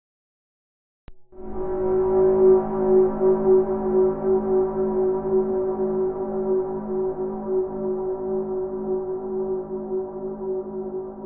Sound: sound of scary horn

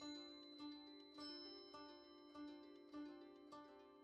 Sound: bells dinging

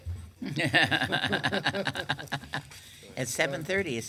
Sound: laughing

